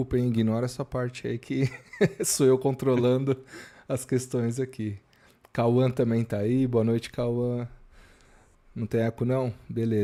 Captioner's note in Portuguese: risadas